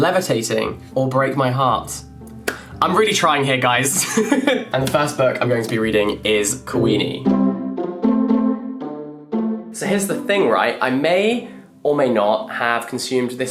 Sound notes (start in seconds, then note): 4.0 laughs; 7.7 light cheerful music